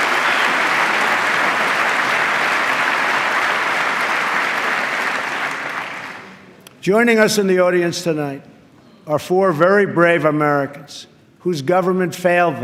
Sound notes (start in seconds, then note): 0.0 applause